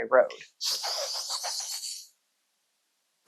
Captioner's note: excited in gremlin